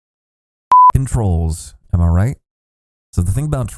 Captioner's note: beep